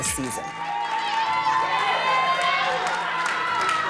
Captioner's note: girls cheering